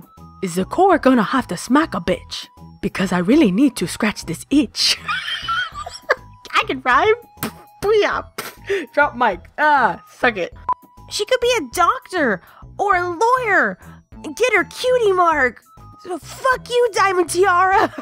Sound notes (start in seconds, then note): 5.0 laughs; 7.2 thump; 7.9 makes mic dropping sound